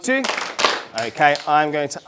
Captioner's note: clap